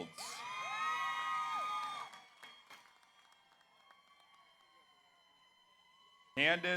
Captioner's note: audience cheers; audience applauds